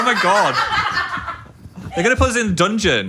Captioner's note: group laughing